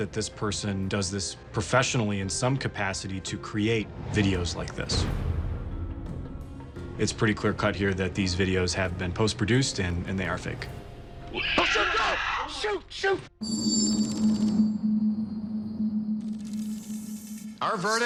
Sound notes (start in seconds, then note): 10.5 screeches; 14.0 foreboding music playing